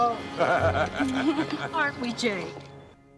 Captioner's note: Jake Laughing